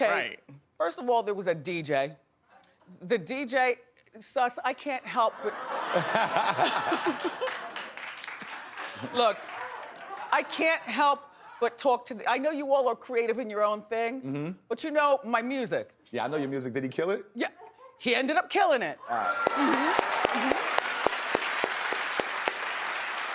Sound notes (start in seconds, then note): 8.1 laughing; 23.1 audience applauding